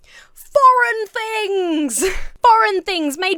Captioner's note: laughs